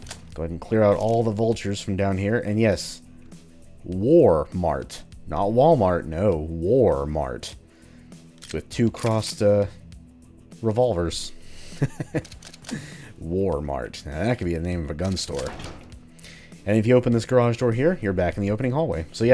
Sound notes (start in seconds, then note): 11.6 chuckles